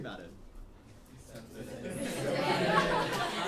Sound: laughs

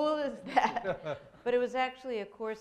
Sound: laughs

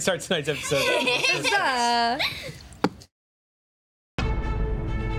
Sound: laughter; dramatic music

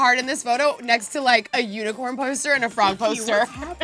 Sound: laughs

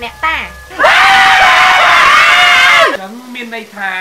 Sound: scream

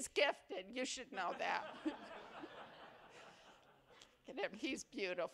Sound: laughter

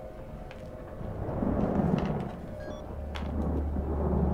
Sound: thunder rumbling; beeping

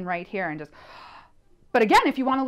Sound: breath

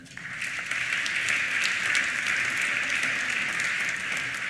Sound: applause

